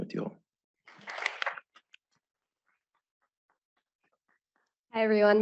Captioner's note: applause